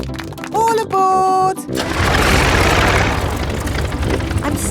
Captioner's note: plane engine starts